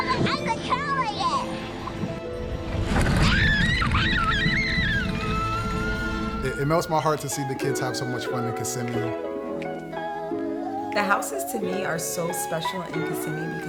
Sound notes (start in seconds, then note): 3.3 screams